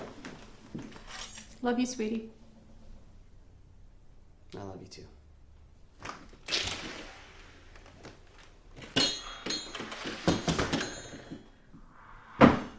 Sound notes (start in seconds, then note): 0.7 keys rattling; 9.2 doorbell dinging